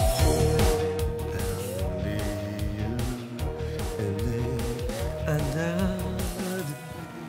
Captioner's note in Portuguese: cantarolando